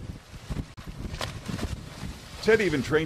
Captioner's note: water splashing